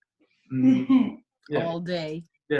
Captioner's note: laughs